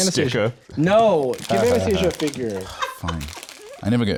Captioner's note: sighs